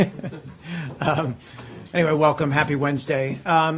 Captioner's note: laughter